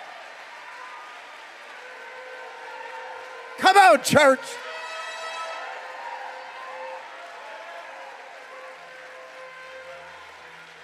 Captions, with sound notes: (trumpet blowing) Come on church! (congregation cheering)